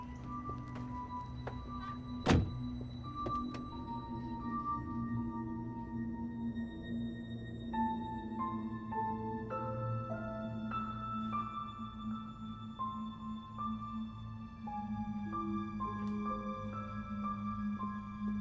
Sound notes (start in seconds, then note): 0.3 suspenseful music; 2.4 car door thuds; 4.0 suspenseful music